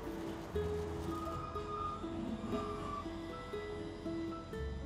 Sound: tram screeching

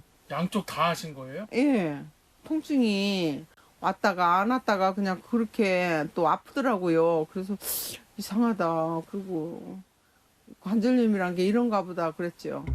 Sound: voiceover

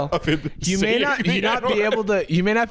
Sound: laughing; laughs

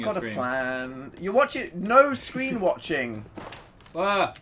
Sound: laughs

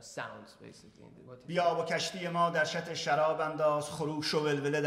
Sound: speaking in farsi

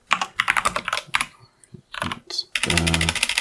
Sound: typing

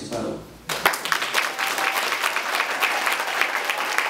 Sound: applause

